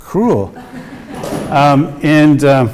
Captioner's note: audience laughs